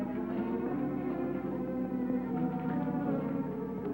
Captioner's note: none